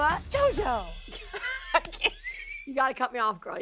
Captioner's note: laughs